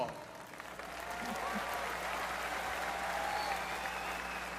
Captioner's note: cheering, applause